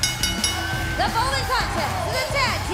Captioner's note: bell ringing